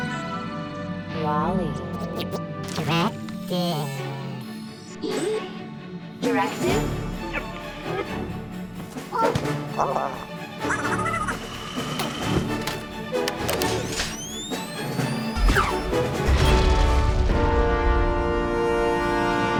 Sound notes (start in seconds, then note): 10.7 warbles excitedly; 13.6 gun charging